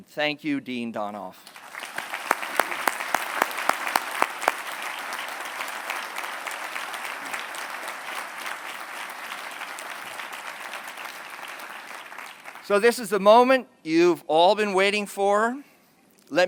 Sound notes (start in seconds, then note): 1.4 applause